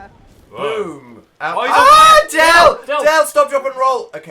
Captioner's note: screaming